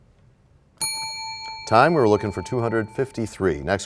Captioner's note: bell rings, time expires